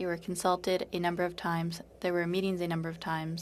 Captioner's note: speaking French